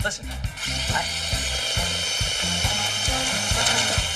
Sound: drill whirring

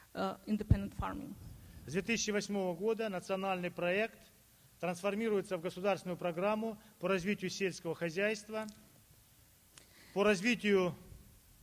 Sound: speaking Russian

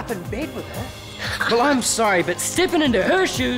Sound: laughs

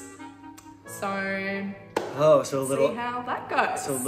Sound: clapping

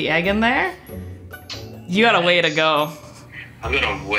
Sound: clicks tongue

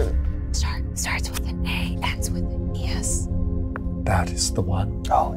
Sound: whisper

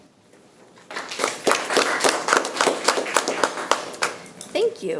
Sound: people clapping

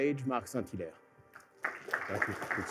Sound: applause

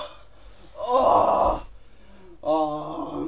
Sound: groaning

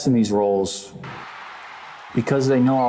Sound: Colosseum crowd cheering

